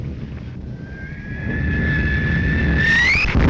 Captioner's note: bombs whistling